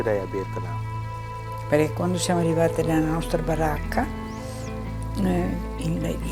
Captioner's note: speaking in foreign language